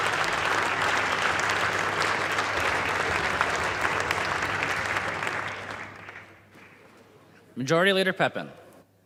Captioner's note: applause